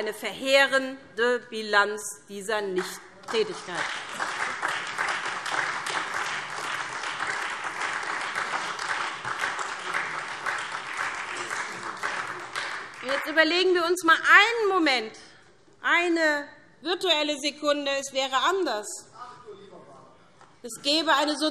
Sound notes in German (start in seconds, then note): 3.2 Beifall SPD und Freie Demokraten